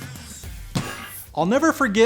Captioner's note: hand thumps